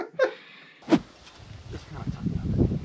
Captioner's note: both laughing; scene whooshing